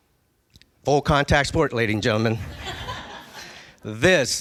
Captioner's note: laughing